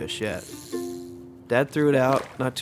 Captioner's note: line whizzes